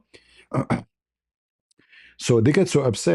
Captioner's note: berdehem